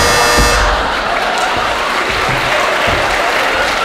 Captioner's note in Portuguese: campainha